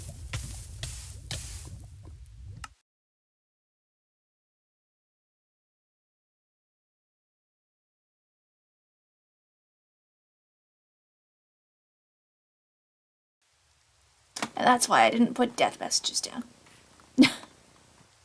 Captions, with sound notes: And that's why I didn't put death messages down! [Laughs]